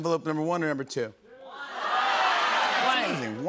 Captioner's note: audience shouting